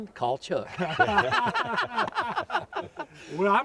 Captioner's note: all laugh